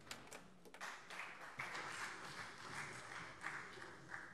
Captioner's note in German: Beifall SPD